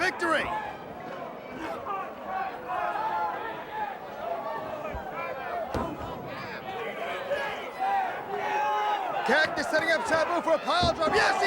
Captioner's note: crowd chatter